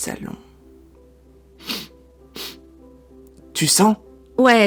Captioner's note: sniffles